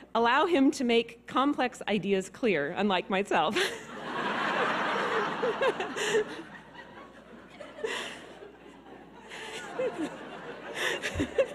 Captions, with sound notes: "allow him to make complex ideas clear," unlike myself. (audience laughing)